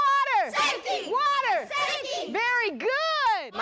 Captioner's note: kids shouting